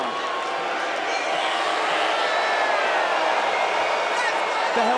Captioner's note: crowd boos